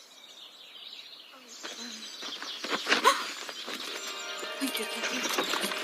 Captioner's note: gasp